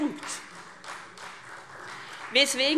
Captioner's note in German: Beifall Freie Demokraten